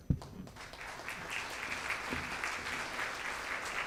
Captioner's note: audience claps